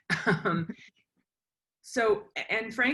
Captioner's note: laughs